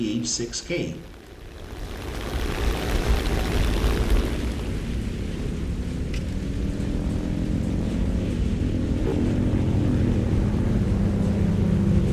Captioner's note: aircraft Engines ,Gunfire, Flying Sounds